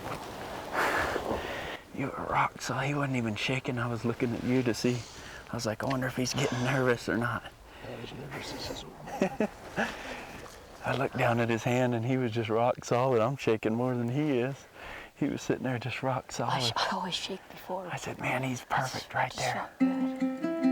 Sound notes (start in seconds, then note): 9.0 laughs; 19.8 gentle music